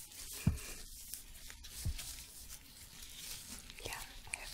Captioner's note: shuffling, glove sounds